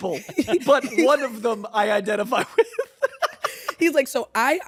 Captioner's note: laughs